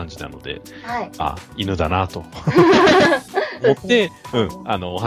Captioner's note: laughter